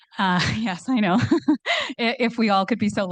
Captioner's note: laughs